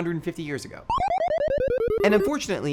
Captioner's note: video game "game over" sound